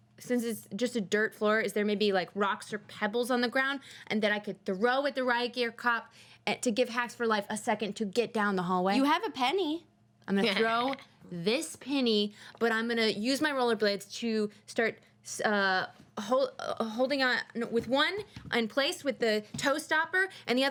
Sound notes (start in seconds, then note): none